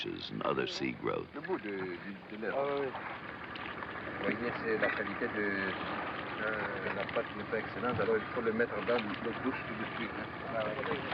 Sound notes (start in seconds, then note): 2.1 speaking french